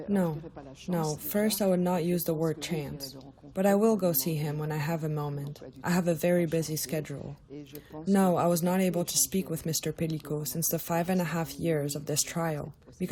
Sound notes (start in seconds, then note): 1.4 through translator